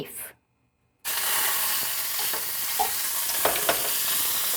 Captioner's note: beef sizzling